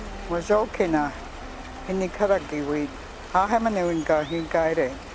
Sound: speaks in foreign language

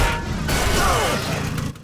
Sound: groaning

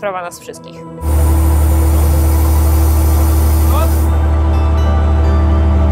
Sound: crane engine working

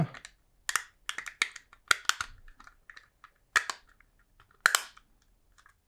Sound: snap, snap

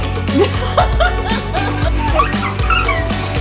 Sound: laughs

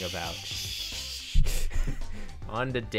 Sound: shushing and laughing

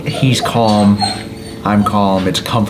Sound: chuckles

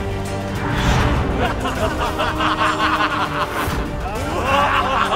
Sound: laughs

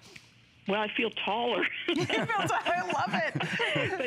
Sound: laughter

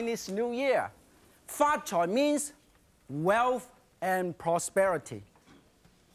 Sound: speaking in foreign language

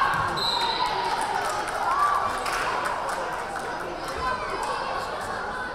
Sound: crowd cheering; whistle blaring

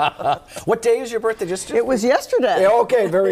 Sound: laughter

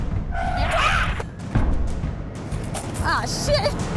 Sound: dramatic music; yells

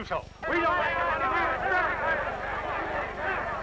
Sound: shouting

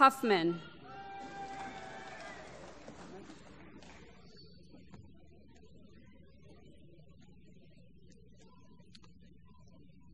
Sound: applause

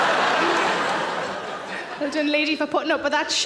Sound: audience laughs

